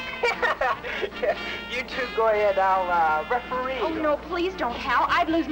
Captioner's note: laughs